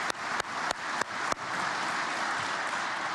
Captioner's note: applause